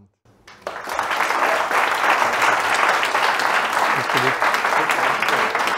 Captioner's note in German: Applaus